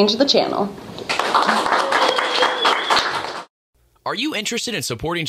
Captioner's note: cheering and applause